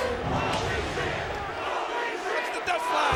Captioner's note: crowd chanting